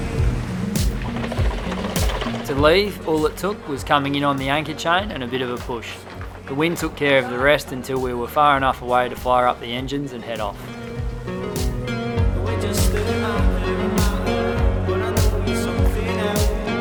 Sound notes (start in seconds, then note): 2.7 voiceover; 12.0 electronic music